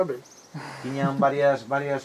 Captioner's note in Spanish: risas